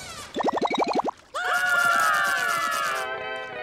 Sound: screaming

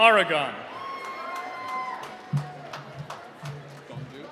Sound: cheering

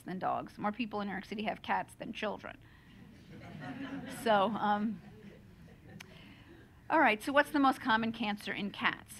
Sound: laughter

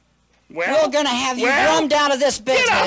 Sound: yelling at the drum

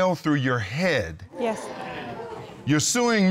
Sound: audience gasping

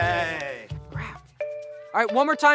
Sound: weak cheers; whispering

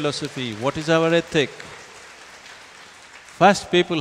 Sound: applause

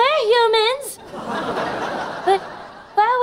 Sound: laughing

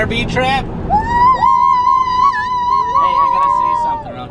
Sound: kids scream Excitedly

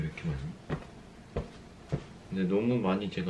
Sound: smacking it

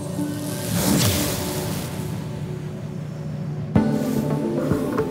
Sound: explosive music; lettering explodes; dynamic, intense electronic music

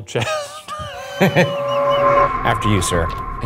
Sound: laughs

